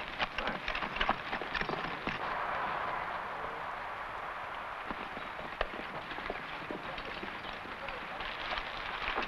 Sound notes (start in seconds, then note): 0.0 horse hooves pattering